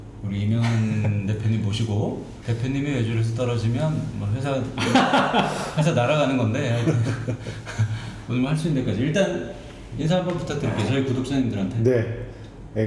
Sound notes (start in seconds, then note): 6.6 laughing